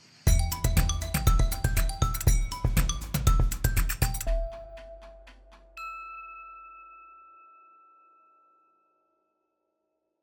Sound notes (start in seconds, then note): 0.2 bright music; 5.7 bell chimes